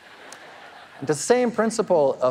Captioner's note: audience laughing